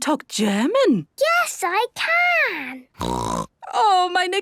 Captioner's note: snorting; speaking German